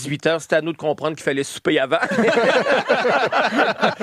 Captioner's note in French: rires